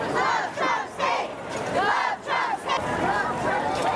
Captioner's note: unison chant; crowd noise and chatter